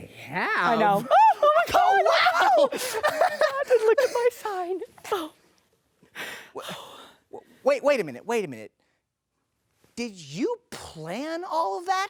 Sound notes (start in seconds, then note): 0.8 laughs